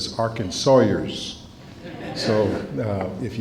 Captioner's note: laughter